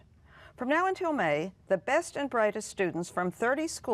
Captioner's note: none